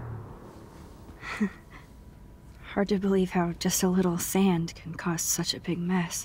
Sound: chuckles

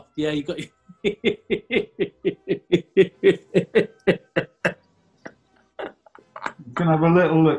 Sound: laughing

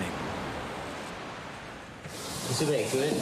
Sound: waves crashing

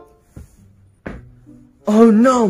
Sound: stomps the ground

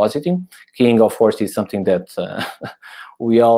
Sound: chuckles

